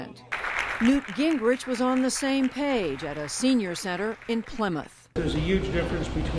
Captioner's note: applause